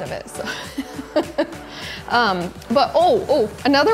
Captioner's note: laughing